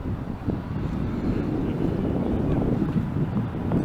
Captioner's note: wind gushing